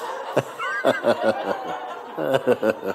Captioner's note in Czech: smích